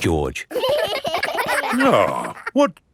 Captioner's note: giggling